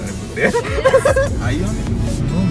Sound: laughing

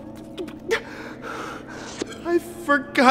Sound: breathing heaviliy

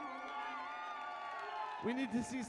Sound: crowd cheering

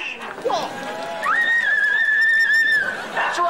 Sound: squealing

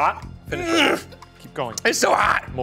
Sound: grunting

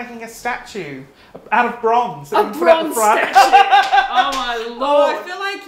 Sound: laughing

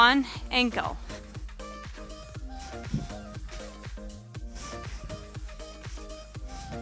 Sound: soft upbeat music; breathes

